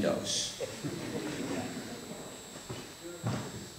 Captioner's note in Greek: Γέλια στπο ακροατήριο